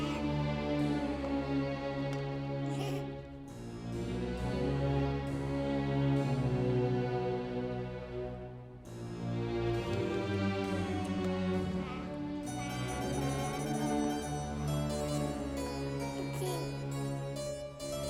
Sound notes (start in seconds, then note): 0.1 child giggling; 2.8 soft dramatic music; 12.6 child babbling; 15.5 soft music